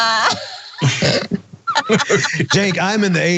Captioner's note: laugh